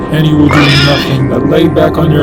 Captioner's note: pig squealing